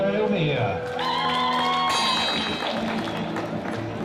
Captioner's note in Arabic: تصفيق الجمهور